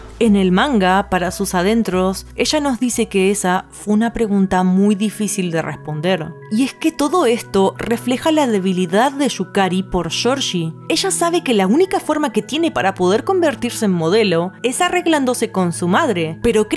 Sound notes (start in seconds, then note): none